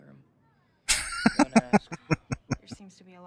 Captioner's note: laughing